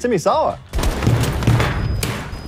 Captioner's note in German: Schussgeräusche